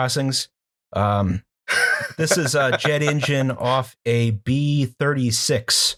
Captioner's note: laughter